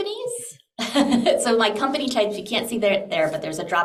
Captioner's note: chuckles